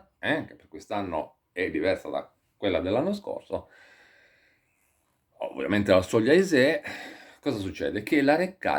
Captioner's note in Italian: sospiri